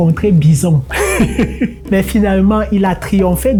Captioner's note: laughter